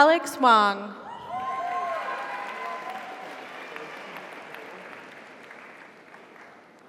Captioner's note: audience cheers; audience applauds